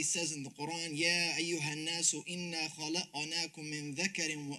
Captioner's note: speaking Arabic